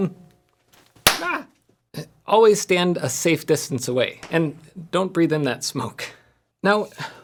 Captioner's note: pop